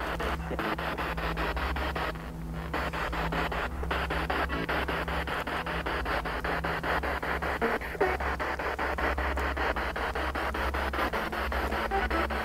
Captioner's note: noise of the spiritbox in the background